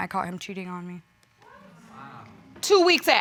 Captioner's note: audience exclaims